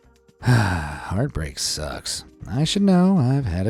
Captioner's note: sighs